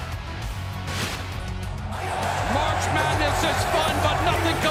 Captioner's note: crowd cheering